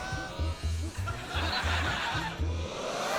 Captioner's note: laughter